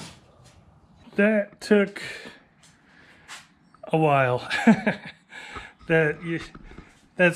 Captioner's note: laughs